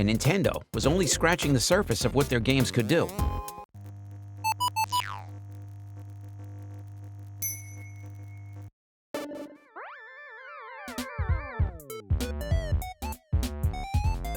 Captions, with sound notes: Nintendo was only scratching the surface of what their games could do. (video game sounds) (video game music)